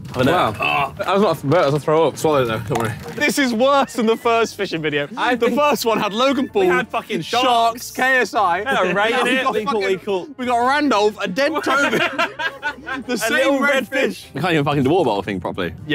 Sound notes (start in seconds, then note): 11.3 laughing